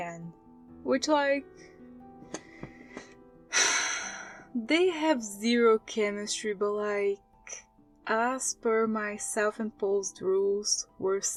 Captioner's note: sigh